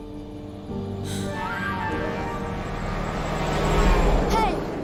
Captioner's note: horn honking